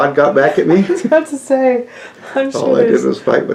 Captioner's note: laughter